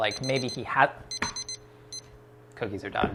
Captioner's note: timer beeps